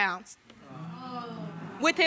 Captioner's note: audience gasps